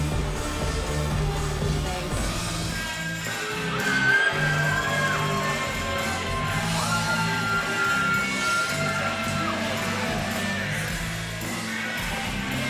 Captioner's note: crowd cheering